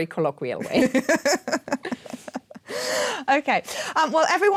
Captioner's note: chuckling